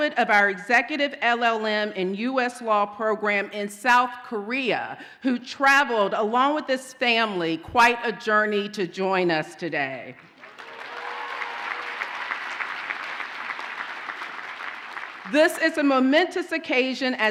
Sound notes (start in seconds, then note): 10.2 audience cheers and applauds